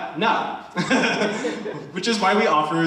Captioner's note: attendees laughing